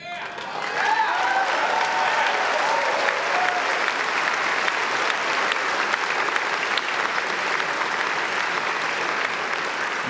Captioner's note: applause